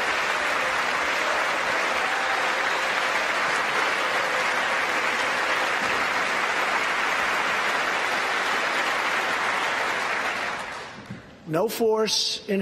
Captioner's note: applause